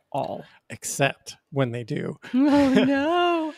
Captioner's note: chuckles